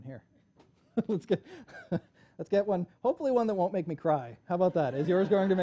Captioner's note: laughs